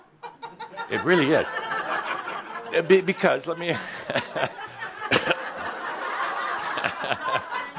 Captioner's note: someone’s chuckling loudly; laughter